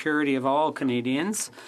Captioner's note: speaking French